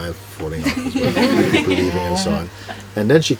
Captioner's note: laughter